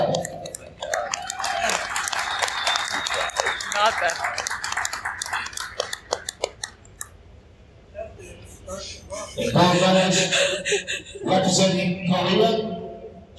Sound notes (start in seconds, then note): 0.5 applause from crowd; 8.1 laughing